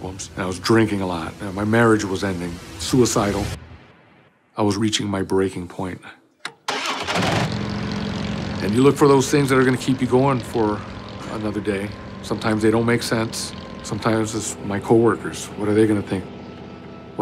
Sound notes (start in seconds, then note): 6.5 motorcycle starts